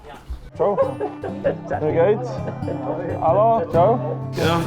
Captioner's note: people speaking